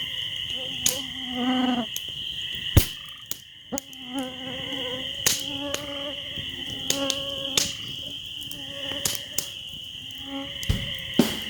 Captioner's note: crackling fire ... frogs & wilderness sounds